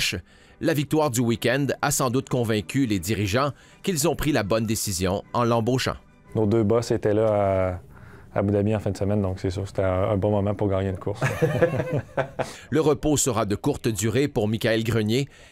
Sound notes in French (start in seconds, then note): 11.2 rires